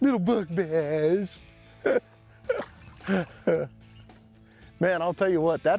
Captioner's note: chuckling